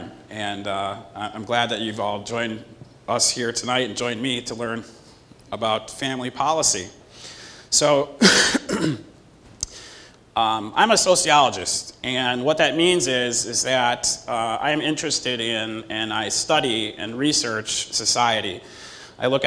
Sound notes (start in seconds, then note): 8.2 cough